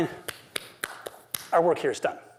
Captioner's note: claps hands